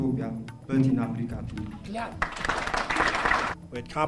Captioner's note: applause